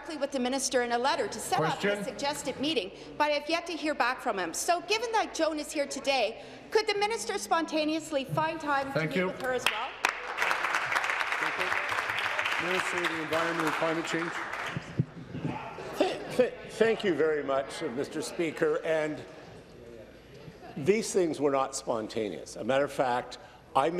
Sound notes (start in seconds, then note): 15.2 applause